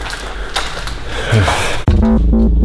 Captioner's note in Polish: westchnięcie